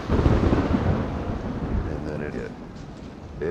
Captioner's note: thunder claps